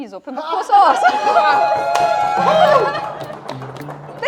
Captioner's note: Jubel, klopfender Applaus